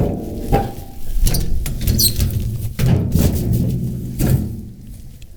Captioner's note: wheelbarrow squeaking